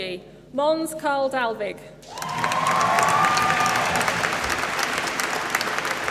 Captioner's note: applause